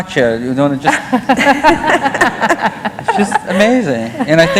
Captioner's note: laughter